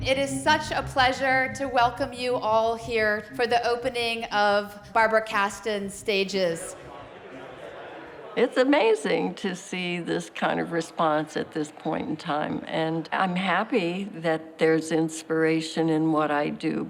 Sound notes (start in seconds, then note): 6.9 indistinct chatter